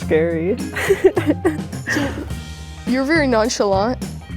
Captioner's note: laughs